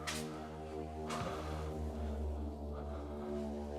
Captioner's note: heavy breathing